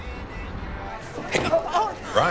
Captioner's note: distant traffic, muted pop music; dishes clattering, people chatting